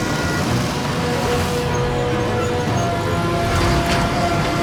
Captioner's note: construction machines rumbling